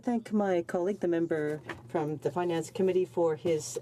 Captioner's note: speaking French